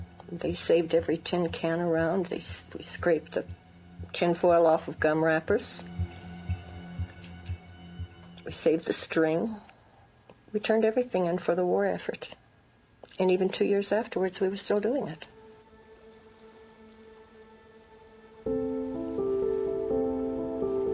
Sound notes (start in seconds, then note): 16.7 water flowing; 18.1 gentle music